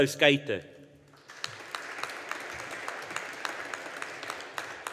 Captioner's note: audience applauding